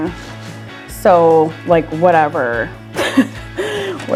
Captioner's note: laughs